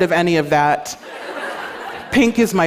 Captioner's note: laughter